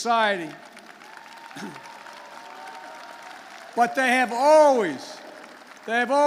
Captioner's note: applause